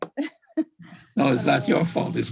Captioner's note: laughs